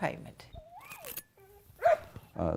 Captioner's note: dog howls, barks